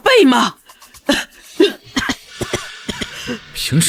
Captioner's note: cough cough cough